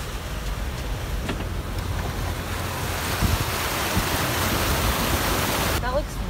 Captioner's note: water rushing past the car